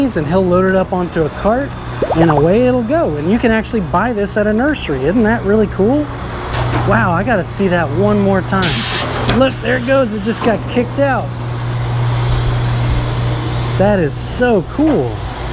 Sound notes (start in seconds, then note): 11.5 machine whirring